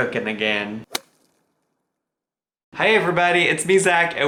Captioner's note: golf swing